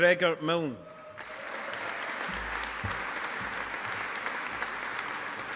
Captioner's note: audience applauding